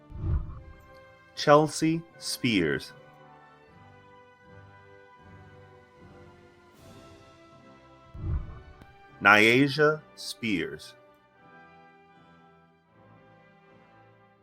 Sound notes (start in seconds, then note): 0.0 whooshing; 3.9 celebratory music; 8.1 whooshing; 11.3 celebratory music